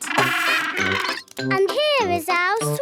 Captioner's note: honking